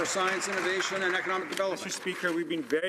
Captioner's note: some Applause